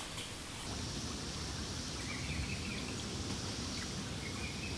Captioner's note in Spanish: agua corriendo